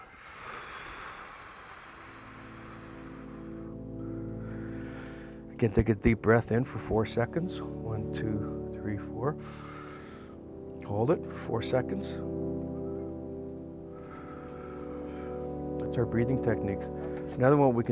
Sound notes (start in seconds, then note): 0.0 exhaling; 9.4 inhaling